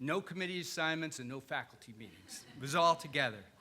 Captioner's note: audience laughing